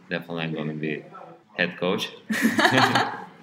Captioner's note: both laugh